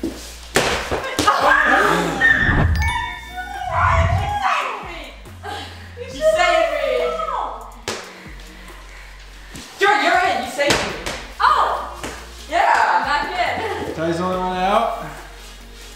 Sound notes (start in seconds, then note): 1.7 yelling